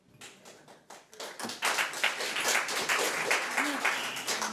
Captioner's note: audience applauds